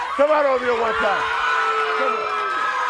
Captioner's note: audience cheering